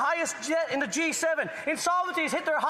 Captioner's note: some Applause